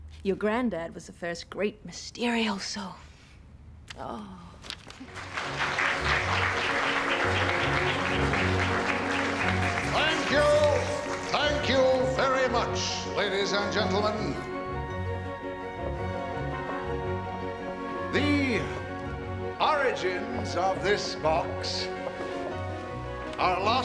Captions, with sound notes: Your grandad was the first great Mysterioso. (crowd applauding) - Thank you, thank you very much, ladies and gentlemen! The origins of this box are lost in the mists of time.